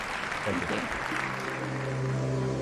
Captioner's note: applause